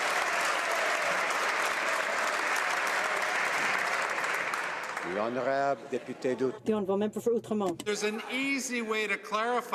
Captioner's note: some Applause